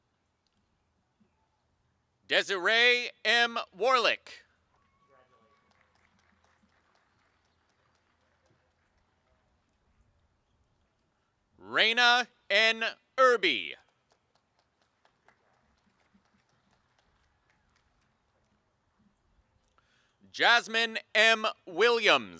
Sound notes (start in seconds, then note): 11.2 applause and cheering